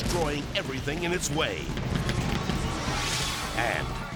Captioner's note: explosion booming; screen whooshes